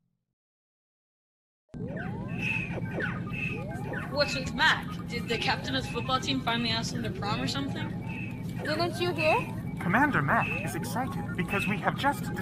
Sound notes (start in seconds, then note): 1.7 beeping, whirling, giggling